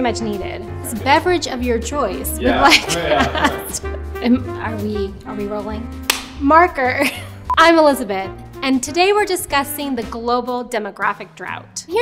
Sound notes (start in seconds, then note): 6.0 claps; 6.8 laughing